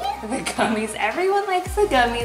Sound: laughs

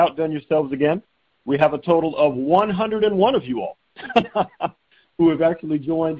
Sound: chuckling

